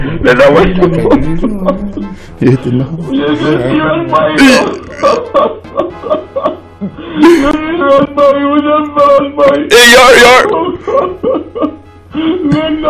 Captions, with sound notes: Father [crying]: Lyndon, you're serious, boy? [Father's crying increases]